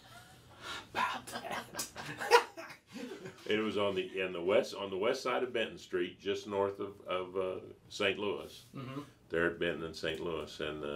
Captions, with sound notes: (all laughing) It was on the west side of Benton Street, just north of St. Louis there at Benton and St. Louis.